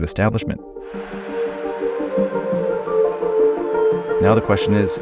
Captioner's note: upbeat music; crowd cheers